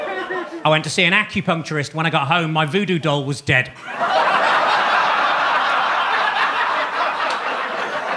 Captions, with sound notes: I went to see an acupuncturist. When I got home, my Voodoo doll was dead. (audience laughing)